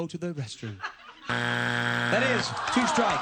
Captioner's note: buzzer